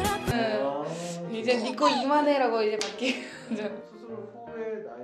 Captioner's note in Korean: 웃음